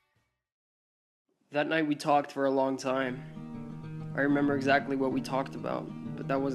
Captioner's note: voiceover